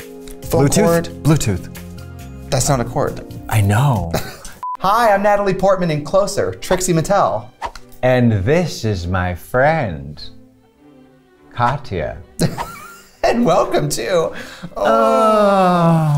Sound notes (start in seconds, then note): 14.7 laughs